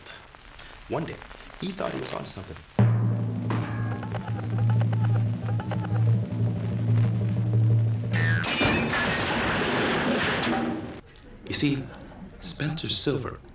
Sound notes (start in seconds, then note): 3.6 drum roll; 8.0 boing!; 8.4 crash